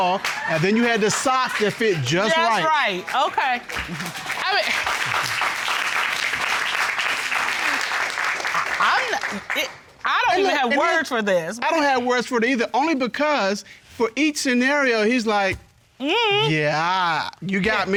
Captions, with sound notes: and then you had the socks that fit -just right. -Just right. Okay. -[audience applauding] -I mean-- I'm-- it-- I don't have words for this. I don't have words, either, only because for each scenario he's like... -Mm-mm. Yeah. -"Yeah. You got me."